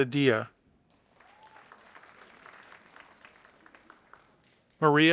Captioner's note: audience applauding